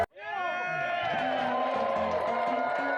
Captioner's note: crowd cheering; crowd; upbeat piano music